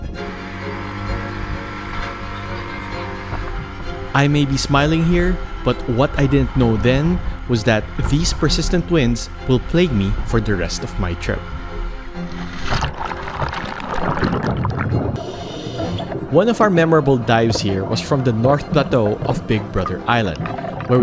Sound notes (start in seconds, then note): 0.1 motor growls; 0.1 orchestral music; 12.3 water splashes and gurgles; 12.5 air hisses